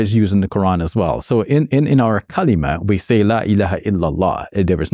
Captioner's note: speaking Arabic